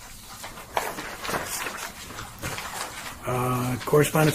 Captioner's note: papers shuffling